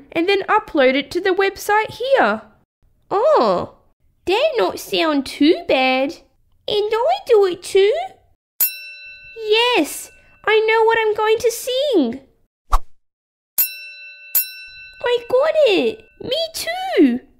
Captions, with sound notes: and then upload it to the website here Oh! That not sound too bad And I do it too! (Ding!) Yes! I know what I'm going to sing (Ding!) (Ding!) I got it! Me too!